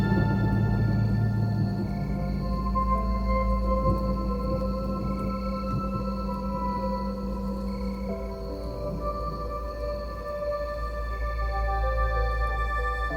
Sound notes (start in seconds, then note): 1.5 insects chirping; 10.3 gentle music